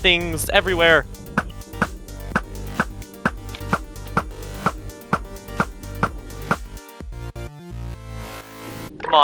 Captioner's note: cool montage noises, trust me